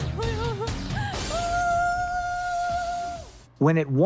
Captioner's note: cheering